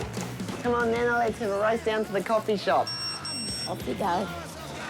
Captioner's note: chair beeps